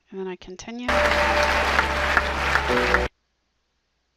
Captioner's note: audience clapping and music in background